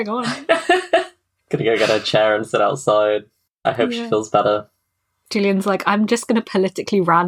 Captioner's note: laughs